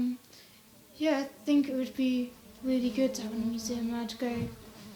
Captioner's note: fly buzzing